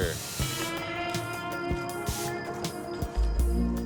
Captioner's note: harsh spraying